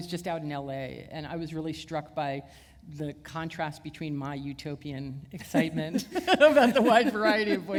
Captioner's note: chuckle